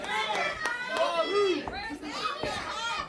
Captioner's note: crowd cheering; crowd chatter